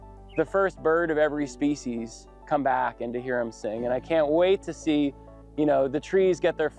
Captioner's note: birds Chirping